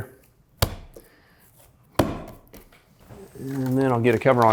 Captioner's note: dough pounding